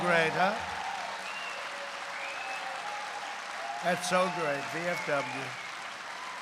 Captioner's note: applause